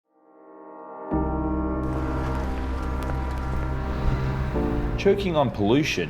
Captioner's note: fast foot steps; gentle piano music